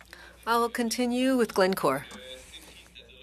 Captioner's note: speaking French